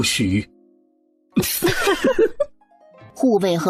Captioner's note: laughs